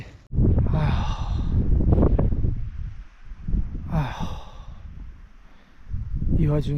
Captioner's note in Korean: 한숨만 연달아 나온다